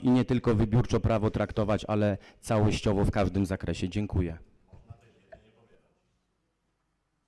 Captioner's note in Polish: Głosy z sali